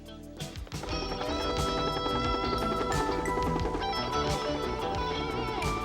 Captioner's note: helicopter whirring